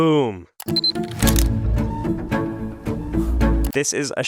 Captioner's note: camera clicking